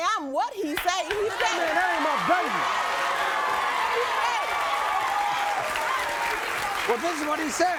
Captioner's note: audience cheers